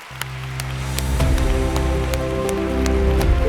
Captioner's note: audience applauds; light upbeat music